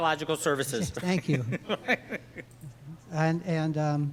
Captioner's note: laughing